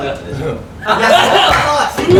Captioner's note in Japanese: 笑い声